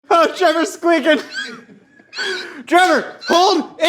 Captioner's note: squeaks